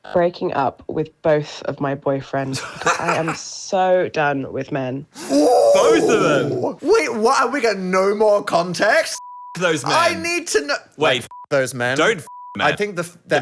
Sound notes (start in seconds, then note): 9.2 beep; 12.2 beep